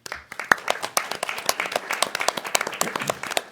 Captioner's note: all applauding